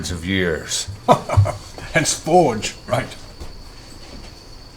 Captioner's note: chuckles